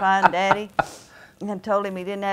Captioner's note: laughing